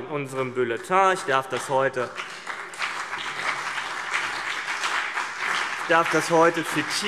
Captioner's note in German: Beifall CDU und BÜNDNIS 90/DIE GRÜNEN